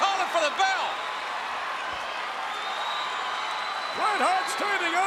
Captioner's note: crowd cheering